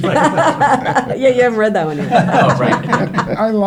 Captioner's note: laughing